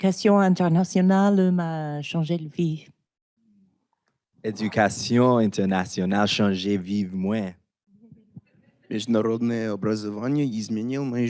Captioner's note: Swahili